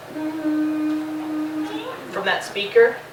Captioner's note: humming